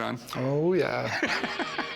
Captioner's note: laughs